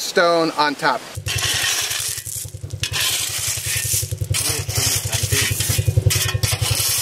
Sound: shovel scraping and engine knocking

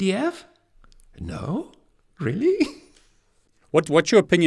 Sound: laughs softly

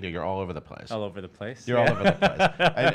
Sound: laughing

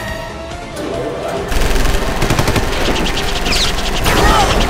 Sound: weapons start firing

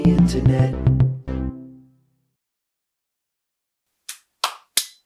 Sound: cheerful tone; both clap

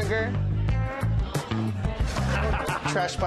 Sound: laughter

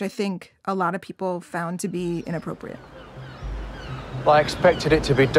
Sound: birds chirping

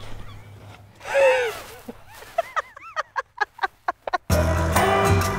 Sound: laughing

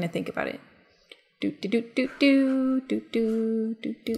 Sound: hums

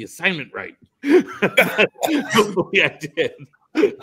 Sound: laughs

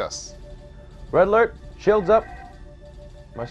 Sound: klaxon

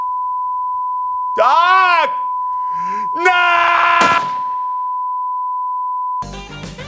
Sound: gunshot

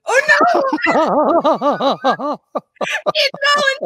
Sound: both laugh

